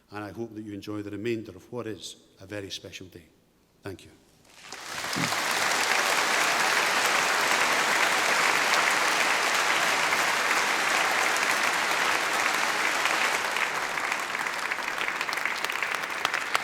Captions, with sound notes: And I hope that you enjoy the remainder of what is a very special day. Thank you. (APPLAUSE)